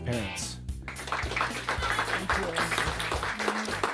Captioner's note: applause